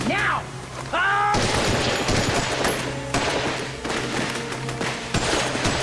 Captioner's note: gunshots